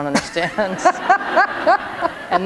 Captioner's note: laughter